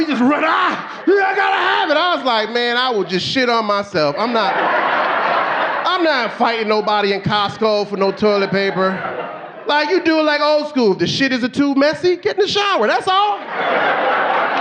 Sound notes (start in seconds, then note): 1.0 screams; 5.6 audience laughing